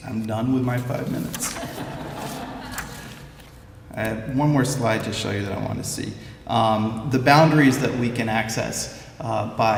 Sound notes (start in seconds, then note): 1.5 laughter